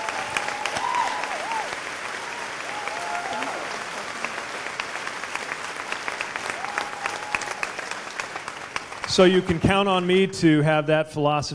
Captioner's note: cheers/applause